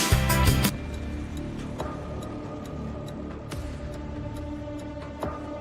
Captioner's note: timer counting down